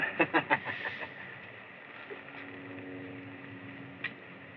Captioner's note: laughs